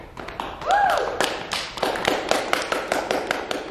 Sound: clapping

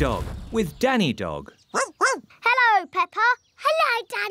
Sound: barking

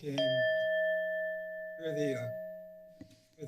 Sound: bell rings

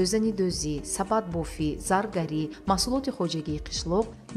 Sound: journalist narrating in tajik

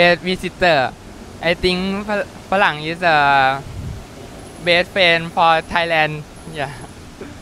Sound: Thailand language

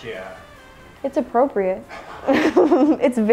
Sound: laughs

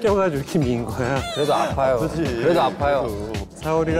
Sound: crying

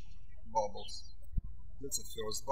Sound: birds chirping

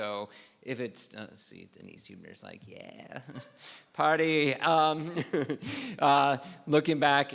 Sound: laughs

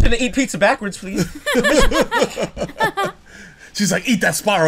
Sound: laughter

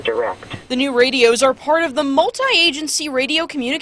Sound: sound of radio

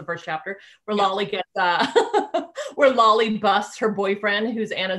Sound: laughing

